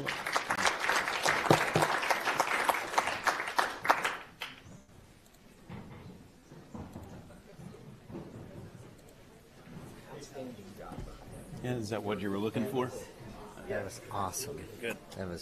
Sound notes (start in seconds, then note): 0.0 audience applauds